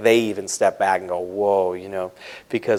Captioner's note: none